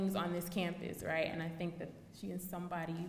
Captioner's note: none